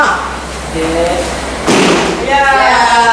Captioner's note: blam!